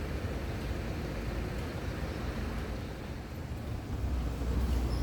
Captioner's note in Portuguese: som de carros passando na rua